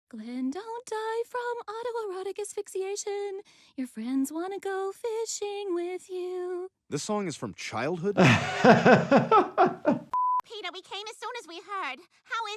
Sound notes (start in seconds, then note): 8.1 Dr. Jordan laughs; 10.0 screen beeps